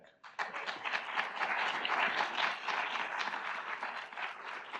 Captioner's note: audience applauds